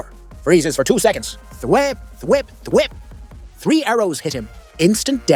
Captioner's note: thwip thwip thwip